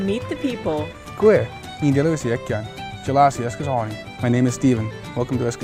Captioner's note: non-English speech